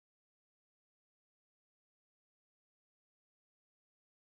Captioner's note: none